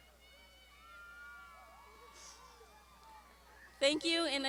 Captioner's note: graduands shouting